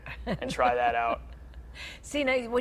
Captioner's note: laughs